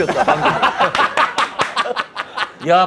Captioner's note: laughing